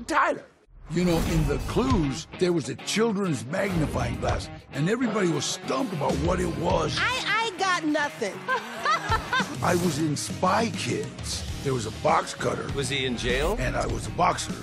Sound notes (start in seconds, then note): 8.3 laughs